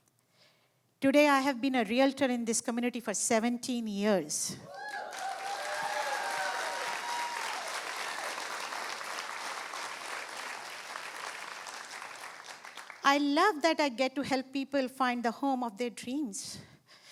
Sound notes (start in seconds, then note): 4.6 cheering and applause